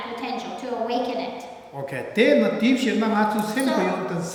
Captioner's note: speaking tibetan